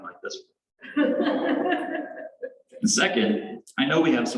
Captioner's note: laughter